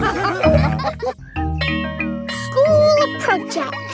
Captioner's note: all laughing; school bell rings